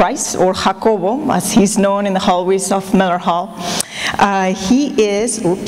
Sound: non-english

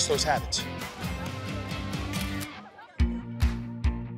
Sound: shutter clicks

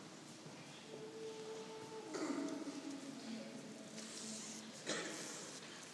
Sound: choir conductor humming

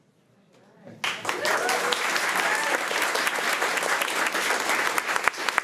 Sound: crowd cheering and clapping

